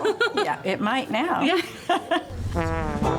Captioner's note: laughs; bright instrumental music